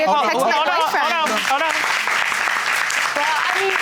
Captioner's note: audience applauds